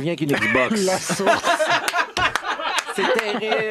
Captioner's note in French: rires